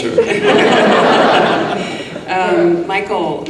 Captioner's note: audience laughing